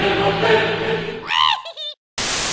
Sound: wheehehe!

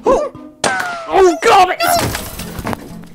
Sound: bullet whizzes and pings; cries out

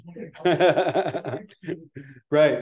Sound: laughing

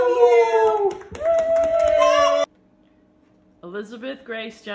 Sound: cheering and applauding

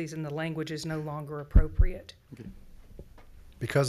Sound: none

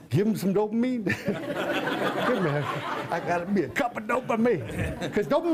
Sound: laughter

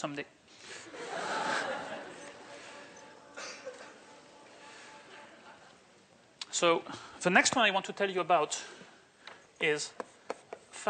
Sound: laughter

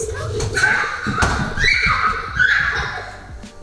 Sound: screaming

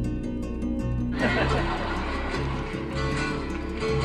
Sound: laughs; guitar music

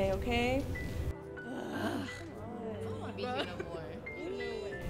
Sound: groans from students

